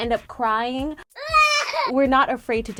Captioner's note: child cries loudly